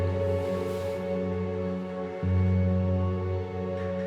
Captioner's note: blanket rustling